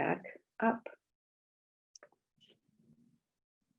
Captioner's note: silence